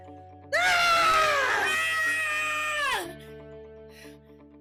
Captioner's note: yelling/screaming